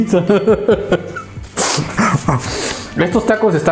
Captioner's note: laughs